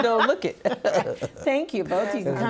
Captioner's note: laughing